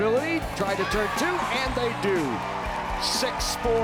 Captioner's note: crowd cheering